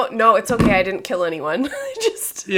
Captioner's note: laughing